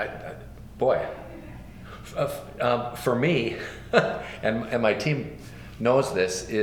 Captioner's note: laughs